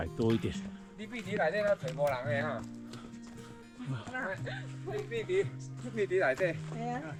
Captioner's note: chatter among hikers